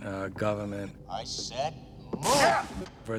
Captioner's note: exclaims